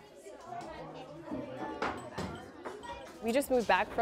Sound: children chattering

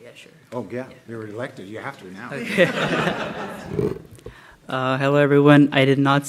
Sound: laughter

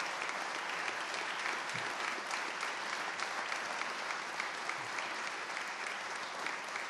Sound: applause

